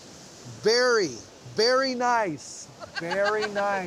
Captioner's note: laughing